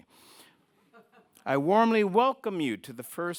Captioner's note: audience laughing